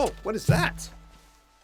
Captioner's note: thump